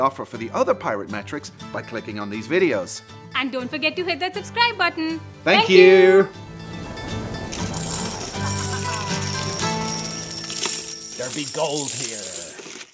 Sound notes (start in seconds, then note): 7.7 rattling coins